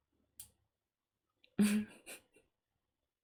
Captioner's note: laughs